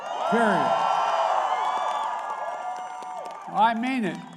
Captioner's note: applause